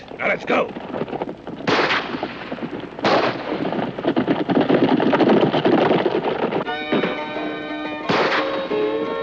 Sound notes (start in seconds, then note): 2.9 gunshots; 6.6 dramatic western music